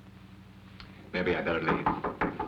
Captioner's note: knocking